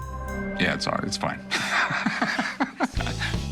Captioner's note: laughs